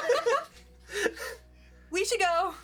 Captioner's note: laughing